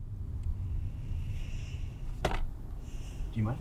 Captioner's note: Mae sighs